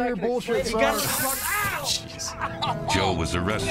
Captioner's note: yelling